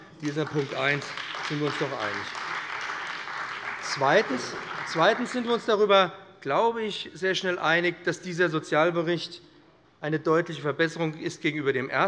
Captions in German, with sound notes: Darin sind wir uns sicher einig. [Beifall bei dem BÜNDNIS 90/DIE GRÜNEN und der CDU] Zweitens sind wir uns sicherlich auch einig, dass dieser Sozialbericht eine deutliche Verbesserung gegenüber dem ersten Bericht ist.